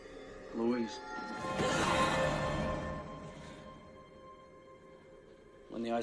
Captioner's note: Louise gasps